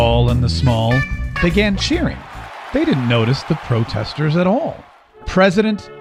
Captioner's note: cheers